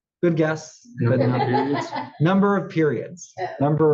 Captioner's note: laugh